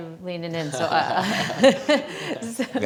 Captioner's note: laughs